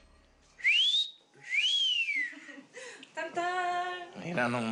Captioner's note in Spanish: Silbidos